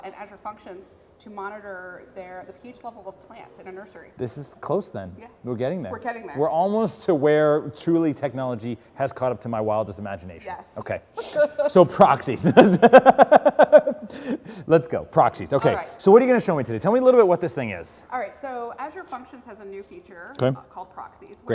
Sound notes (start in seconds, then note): 11.1 laugh